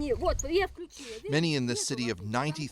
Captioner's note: speaking Russian